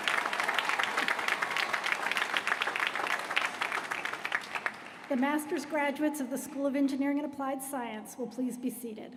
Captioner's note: applause